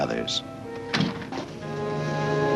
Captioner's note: door opens; dramatic music